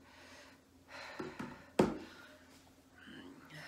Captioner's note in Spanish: Inhala con dificultad